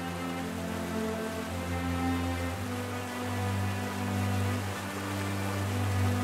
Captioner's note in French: Les bruits de la nature reviennent